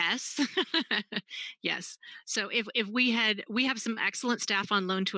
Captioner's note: laughs